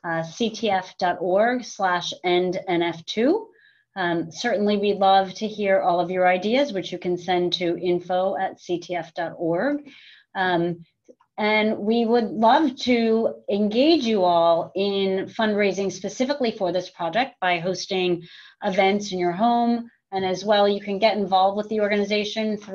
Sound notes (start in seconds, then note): none